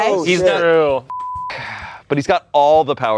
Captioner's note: beep